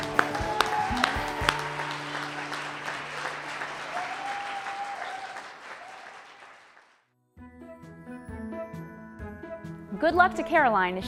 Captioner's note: cheers and applause